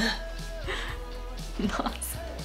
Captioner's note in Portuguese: risos